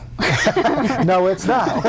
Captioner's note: everyone laughs